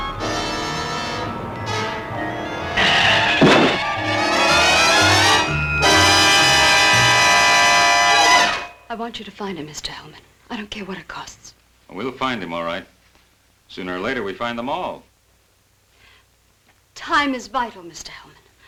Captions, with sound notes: (tires squealing) (thudding) I want you to find him, Mr. Hellman, I don't care what it costs. We'll find him all right, sooner or later we find them all. Time is vital, Mr. Hellman.